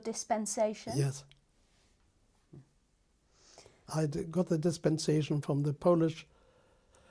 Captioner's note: pauses for 3 seconds; pauses for 3 seconds